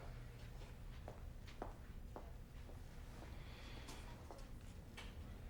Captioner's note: footsteps approaching